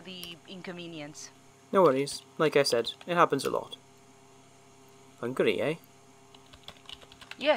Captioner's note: typing at his computer